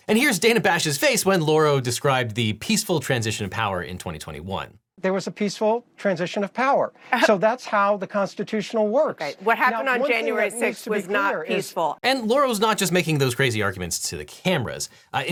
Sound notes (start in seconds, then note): 7.1 laughs disbelievingly